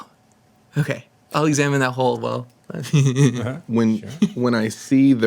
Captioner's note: laughs